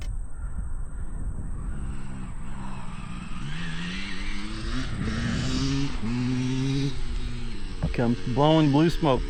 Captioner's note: engine roaring